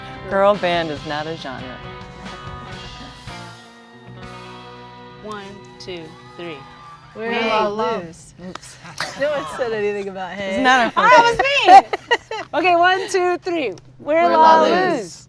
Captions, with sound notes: - Girl band is not a genre. - One, two, three, - Hey-- - We’re La Luz (laughter) - No one said anything about “hey.” - Alright, it was me! - Okay, one, two, three... - We're La Luz.